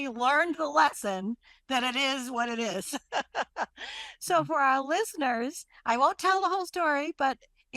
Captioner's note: laughs